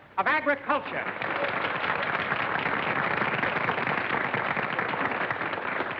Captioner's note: applause